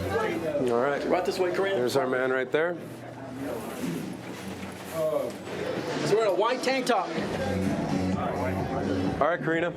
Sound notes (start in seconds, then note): 4.5 crowd chattering